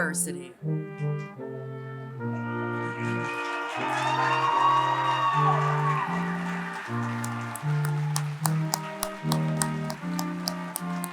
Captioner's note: applause